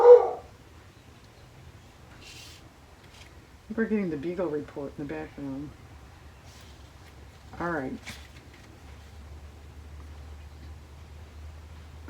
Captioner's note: dog barks